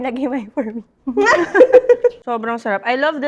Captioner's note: laughs